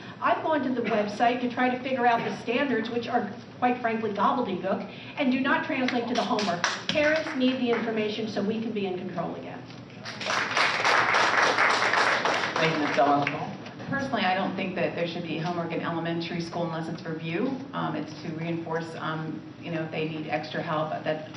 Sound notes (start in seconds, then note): 10.0 applause